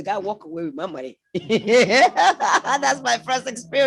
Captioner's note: laughs